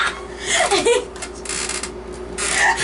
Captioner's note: laughs